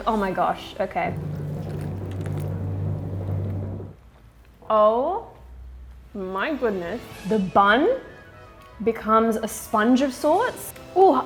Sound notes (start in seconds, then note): 1.1 chomps loudly